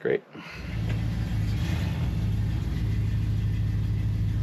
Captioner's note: engine purring